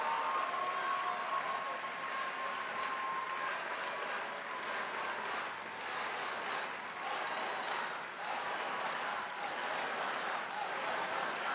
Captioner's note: cheering and applause